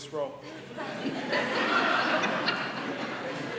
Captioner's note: laughter